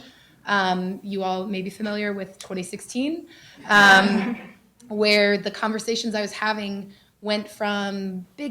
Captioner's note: laughter